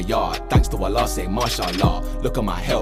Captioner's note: non-english